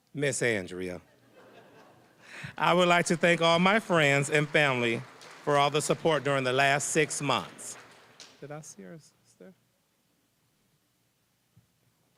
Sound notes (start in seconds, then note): 2.4 applause